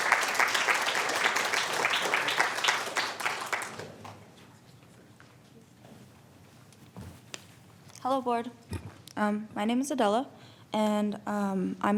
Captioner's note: applause